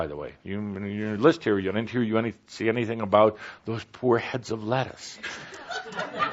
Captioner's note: laughter